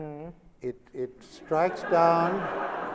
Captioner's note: laughter